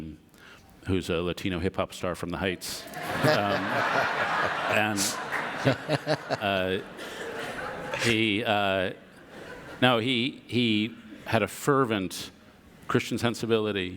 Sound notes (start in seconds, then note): 6.2 audience laughter